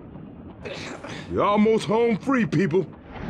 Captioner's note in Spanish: se queja